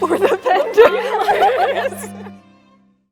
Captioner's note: women laugh